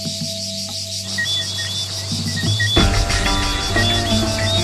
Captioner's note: birds chirping